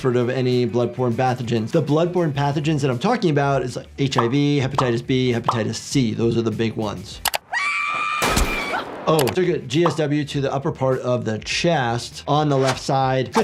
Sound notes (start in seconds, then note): 8.2 gun booms